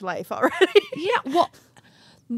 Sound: chuckles

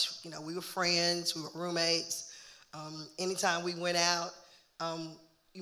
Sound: none

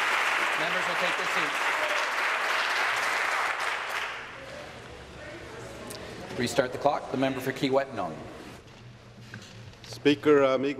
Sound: applause

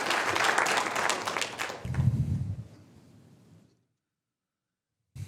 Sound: applause

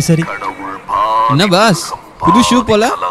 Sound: phone ringing

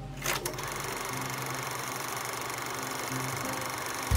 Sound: projector rattling

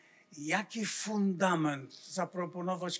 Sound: foreign language

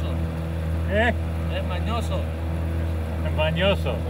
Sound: speaks native language

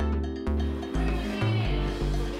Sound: meow

